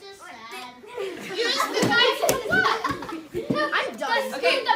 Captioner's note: laughter